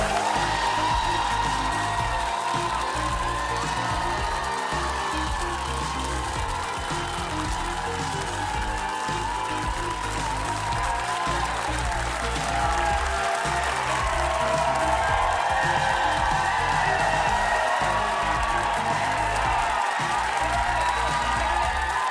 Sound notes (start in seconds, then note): 0.0 applause; 6.0 cheers and applause